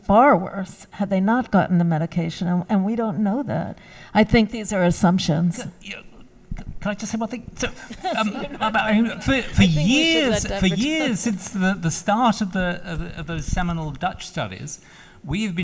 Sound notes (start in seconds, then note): 7.6 laughs